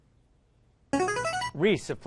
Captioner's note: ringer